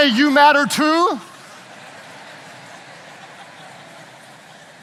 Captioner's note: audience chattering